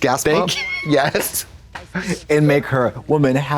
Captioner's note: Katya slaps and tee-hees